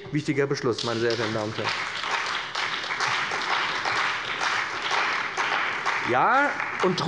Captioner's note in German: Beifall bei dem BÜNDNIS 90/DIE GRÜNEN und der CDU